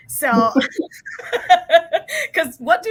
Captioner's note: laughter